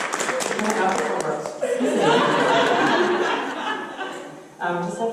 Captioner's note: applause; audience laughter